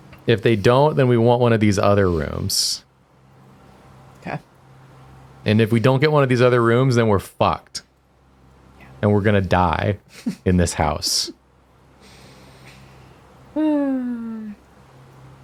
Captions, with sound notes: If they don't, then we want one of these other rooms. Okay. And if we don't get one of these other rooms, then we're fucked. And we're going to die in this house. [sigh]